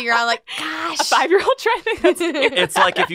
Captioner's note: laughs